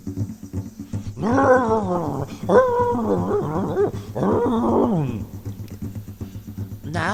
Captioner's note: roaring